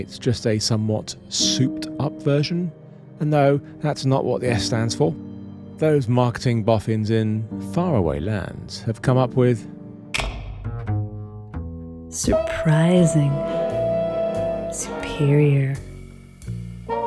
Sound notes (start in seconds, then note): 12.4 sexy female voice